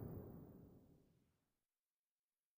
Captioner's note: silence